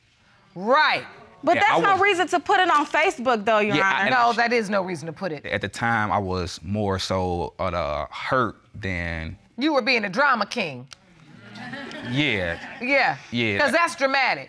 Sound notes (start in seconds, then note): 11.3 audience laughing